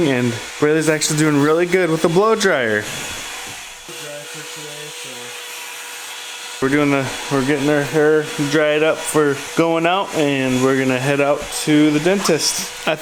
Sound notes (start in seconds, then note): 3.8 blow dryer blowing